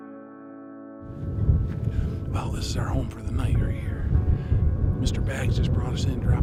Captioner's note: wind blowing; whispering